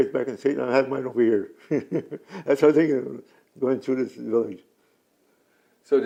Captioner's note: laughs